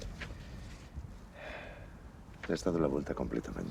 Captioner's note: sighs